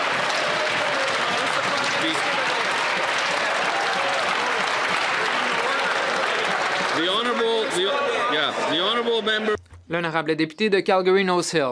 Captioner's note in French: applaudissements